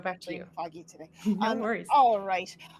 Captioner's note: laughs